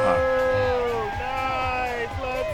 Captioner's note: crowd cheering